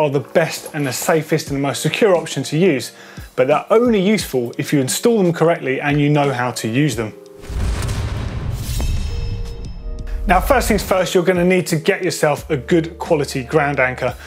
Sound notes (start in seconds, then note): 7.4 whoosh; 8.4 sword slash